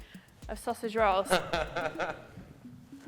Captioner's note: laughter